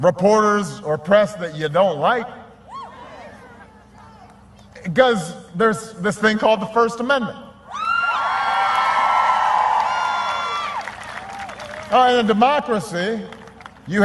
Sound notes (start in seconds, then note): 8.7 applause